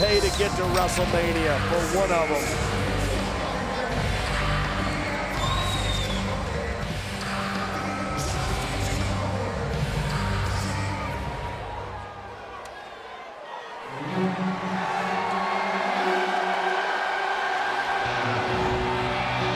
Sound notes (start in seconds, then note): 12.5 crowd chattering; 14.0 crowd cheering; 14.1 dramatic upbeat music